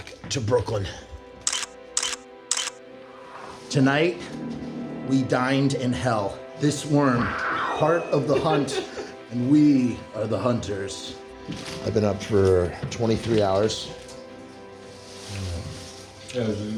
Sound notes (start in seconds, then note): 2.5 camera shutter clicks; 8.3 laughter